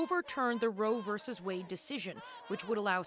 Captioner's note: chanting